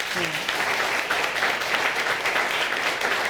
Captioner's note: audience applauds